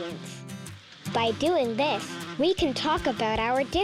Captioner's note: bee buzzing